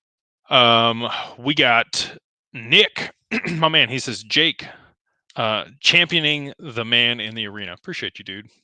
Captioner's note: clears throat